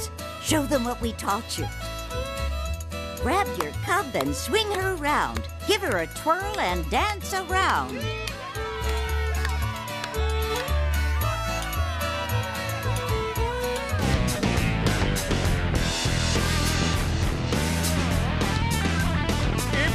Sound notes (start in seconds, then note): 14.6 cheering